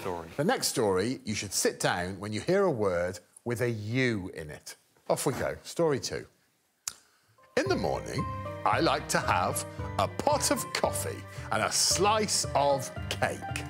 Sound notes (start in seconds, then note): none